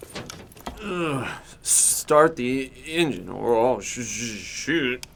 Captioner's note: groans